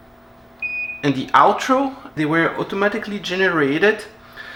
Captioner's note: lower beep